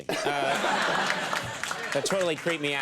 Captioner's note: audience laughing